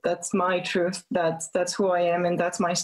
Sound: speaking in French

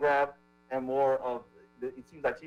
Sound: ~audio distortion~

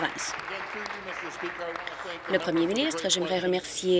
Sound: applause

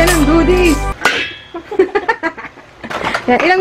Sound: laughs

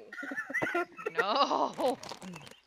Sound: cracking up laughing

